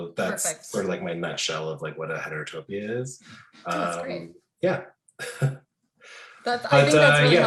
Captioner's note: laughing